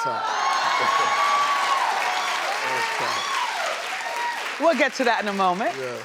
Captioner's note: audience cheering